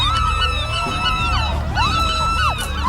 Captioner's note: gull squawking; gulls squawking; Carmen screaming